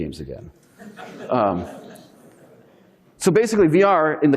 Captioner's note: audience laughing